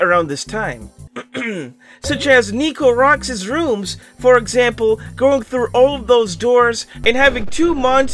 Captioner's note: ahem